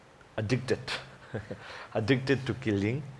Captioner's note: chuckles